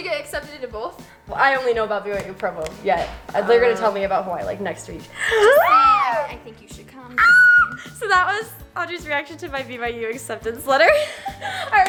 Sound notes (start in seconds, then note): 5.1 gasps; 7.2 screams